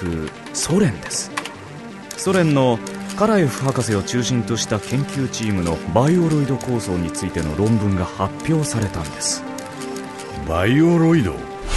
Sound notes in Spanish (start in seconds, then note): 0.0 sonidos de teclado; 2.0 sonidos mecánicos